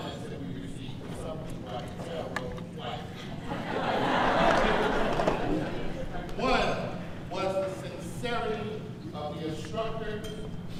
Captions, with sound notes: that we received. Some people, like Tara, wrote twice. (audience laughs) One, was the sincerity of the instructors,